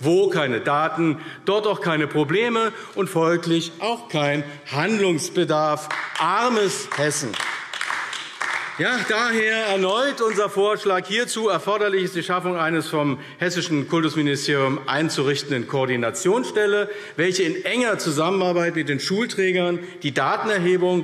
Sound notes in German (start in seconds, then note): 7.5 Beifall AfD